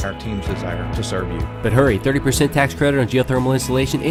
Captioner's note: voiceover